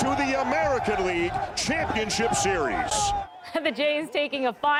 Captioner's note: cheers and Applause